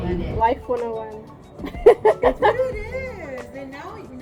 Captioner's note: laughs